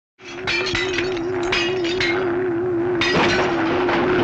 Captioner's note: upbeat music; metal clinking